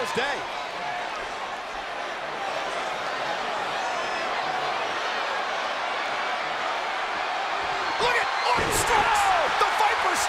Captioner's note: applause